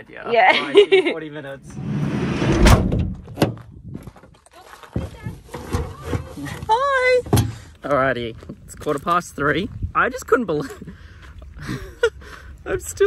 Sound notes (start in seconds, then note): 0.7 laughs; 1.8 door slamming; 12.1 laughs